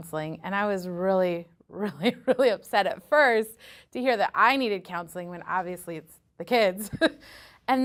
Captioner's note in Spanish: risas